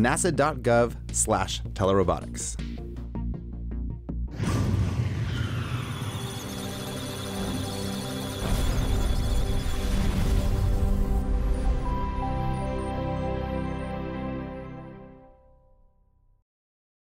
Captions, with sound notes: NASA-dot-gov-slash-telerobotics. (Electronic Sounds of Data) (Musical Tones)